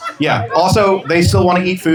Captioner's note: laughter